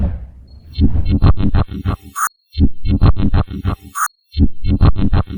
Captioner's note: rhythmic glitchy sounds